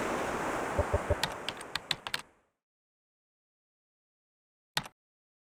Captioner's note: keyboard clacking